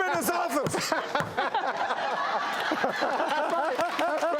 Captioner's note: laughing